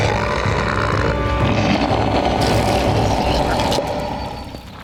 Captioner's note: roaring; grunting